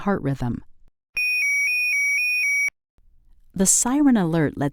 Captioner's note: LifeVest two-tone siren alert